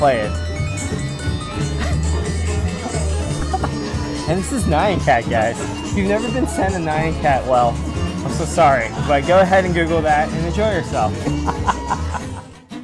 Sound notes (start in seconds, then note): 0.3 electronic music plays; 11.1 laughs